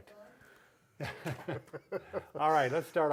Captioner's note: both chuckling